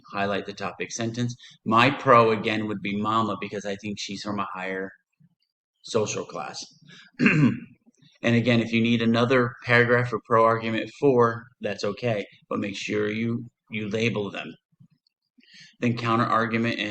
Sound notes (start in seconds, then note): 7.1 throat clearing